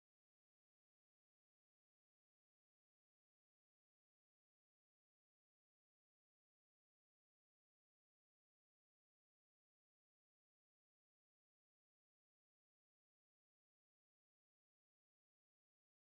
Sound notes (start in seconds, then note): none